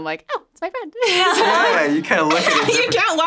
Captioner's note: everyone laughs